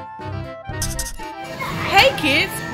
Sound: scratching

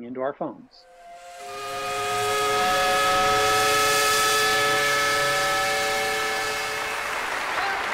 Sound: steam whistle; applause

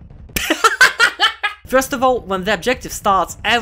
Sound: laughter

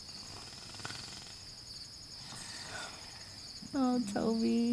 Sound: snoring

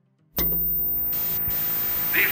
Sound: static crackling

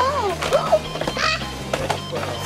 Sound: gasps

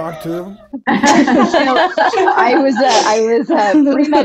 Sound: all women laughing

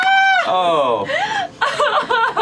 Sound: laughter; laughter

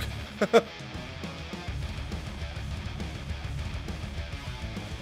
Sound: laugh

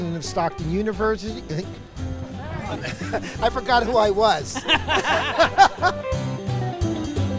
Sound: laughter

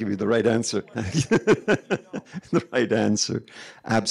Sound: laughing

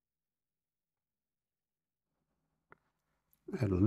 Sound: silence

